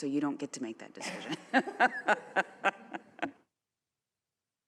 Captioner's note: laughter